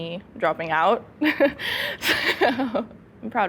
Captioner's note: laughs